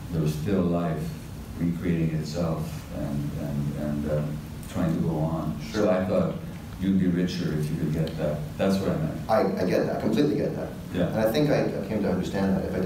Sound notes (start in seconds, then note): none